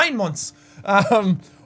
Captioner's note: laughs